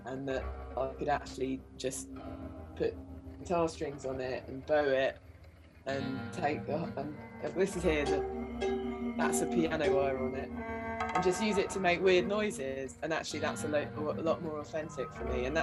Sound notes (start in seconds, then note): 6.8 dull metallic plucking sound